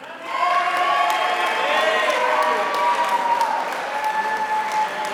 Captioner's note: applause